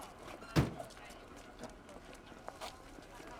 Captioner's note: crowd chattering; car door slams